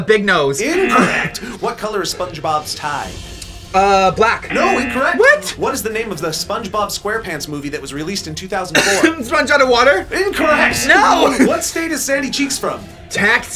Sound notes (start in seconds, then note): 0.6 buzzer blares; 4.4 buzzer blares; 8.7 coughs; 10.4 buzzer blares